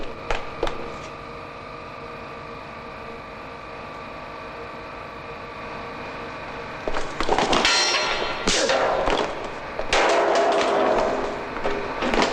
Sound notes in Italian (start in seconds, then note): 1.5 campana